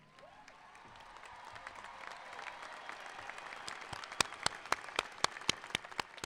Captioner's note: applauding; cheering